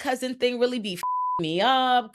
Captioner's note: beep